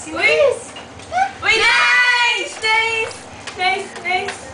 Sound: shouting

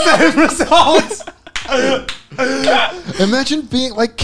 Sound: men laughing; clapping

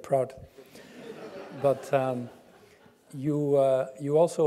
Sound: laugh

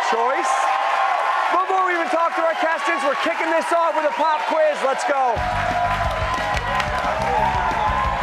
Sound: cheers and applause

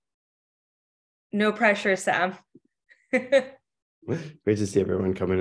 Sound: laughs

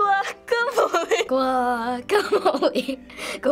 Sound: laughing

